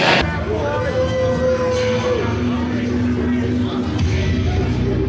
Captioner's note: audience shouting